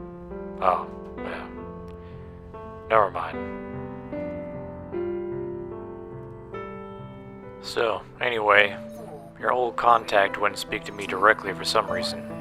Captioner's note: sigh